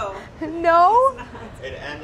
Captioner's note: laughs